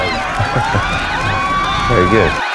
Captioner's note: chuckles